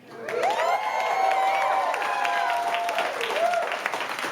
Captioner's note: crowd cheering